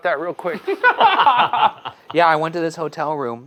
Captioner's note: group laughing